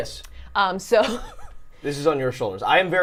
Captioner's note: laughing